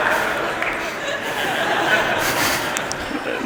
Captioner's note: applause; laughter